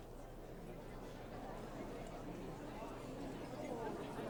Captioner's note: people chattering